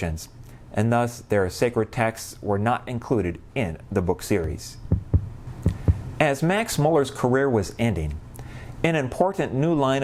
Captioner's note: heart beating